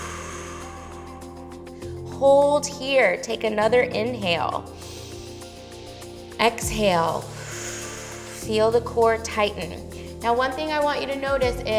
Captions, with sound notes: (exhales) Hold here, take another inhale. (inhales) Exhale. (exhales) Feel the core tighten. Now, one thing I want you to notice is